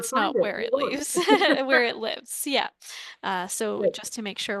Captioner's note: speaking off mic